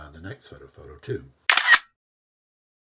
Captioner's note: camera click